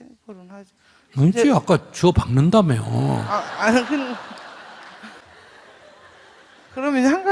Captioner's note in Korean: 청중 웃음